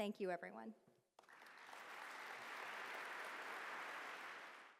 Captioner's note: applause